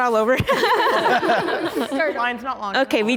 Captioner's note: group laughing